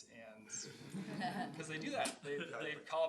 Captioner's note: laughing